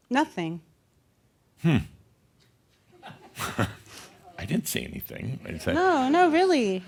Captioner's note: a few chuckles